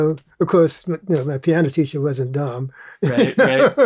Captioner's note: laughs